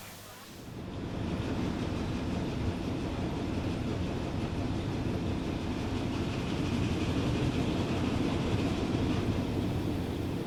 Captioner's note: sound of rollers on a conveyer belt whirring